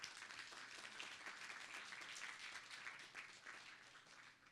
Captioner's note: applause